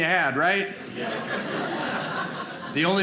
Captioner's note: audience laughing